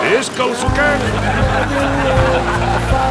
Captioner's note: they laught